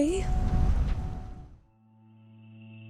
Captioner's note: whooshing sound; suspense music